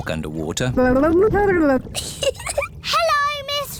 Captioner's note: gurgles; giggles